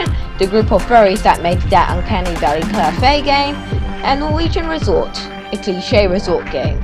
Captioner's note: laugh track